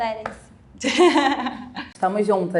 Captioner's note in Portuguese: risos